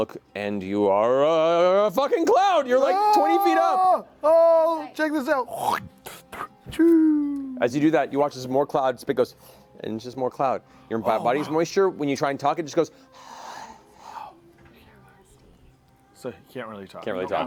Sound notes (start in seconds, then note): 5.5 spits; 12.9 exhale